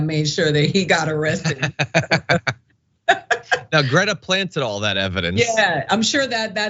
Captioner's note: laugh